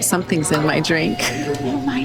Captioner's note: chuckles